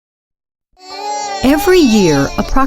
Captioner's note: voiceover